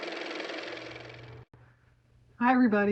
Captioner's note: car motor